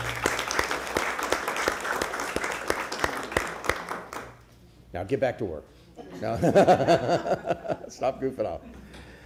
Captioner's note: applause